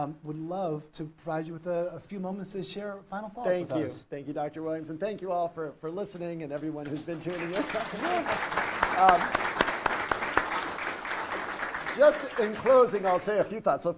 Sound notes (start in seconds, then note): 6.8 audience and host applaud